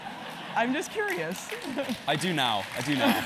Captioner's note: laugh; applause